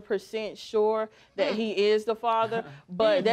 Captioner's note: both scoff